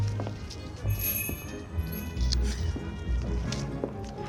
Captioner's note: door bell jingles